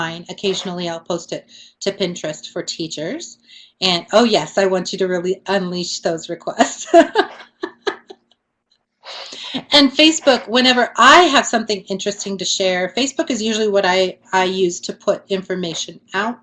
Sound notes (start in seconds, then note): 6.9 laughs